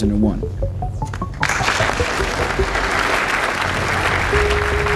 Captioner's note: audience applauds